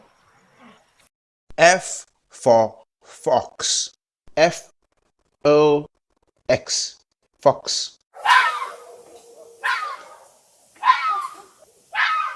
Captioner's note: sound: Barks